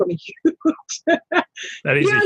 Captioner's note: laughter